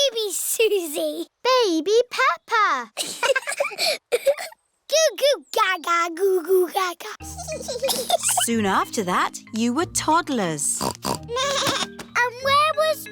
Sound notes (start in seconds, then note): 3.0 both laughing; 10.7 snorts; 11.3 bleats